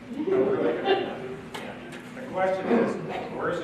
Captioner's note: audience laughs